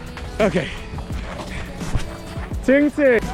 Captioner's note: panting